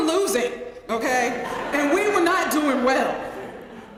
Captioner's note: laugh